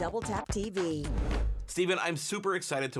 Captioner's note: air whooshes